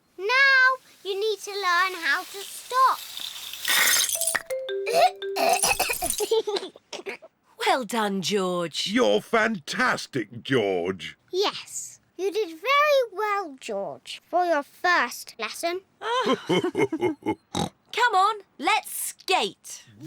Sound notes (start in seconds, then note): 4.9 splutters; 5.4 giggles; 16.0 both laugh